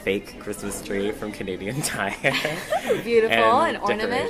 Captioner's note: laughs